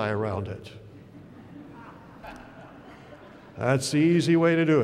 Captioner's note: laughter